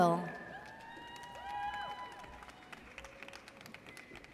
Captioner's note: audience cheers